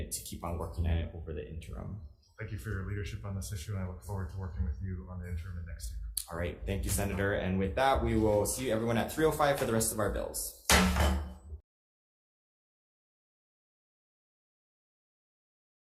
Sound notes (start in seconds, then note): 10.6 gavel thumps